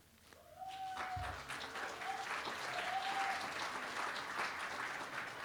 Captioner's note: applause